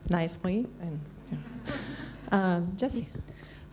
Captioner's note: laughs